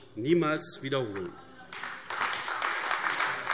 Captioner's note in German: Beifall AfD